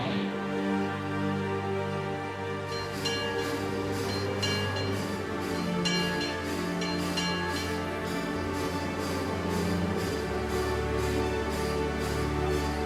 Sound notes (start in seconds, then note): 0.3 emotional orchestral music; 2.6 train bell ringing; 7.6 emotional orchestral music continues